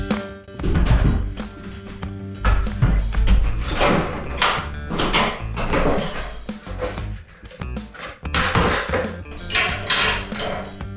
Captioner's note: yes, more demolition noises